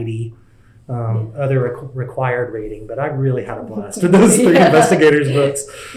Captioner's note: laughs